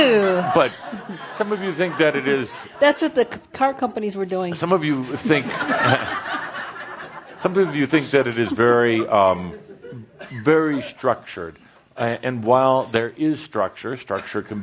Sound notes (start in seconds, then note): 5.3 more laughter